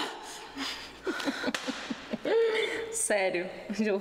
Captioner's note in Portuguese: risos